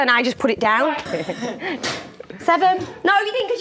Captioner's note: laughing